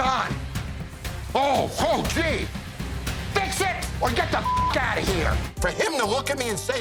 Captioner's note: beep